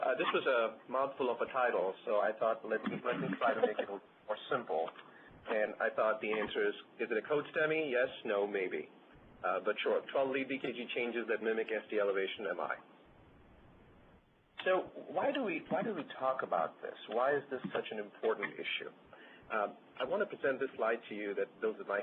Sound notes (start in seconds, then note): 2.8 laughs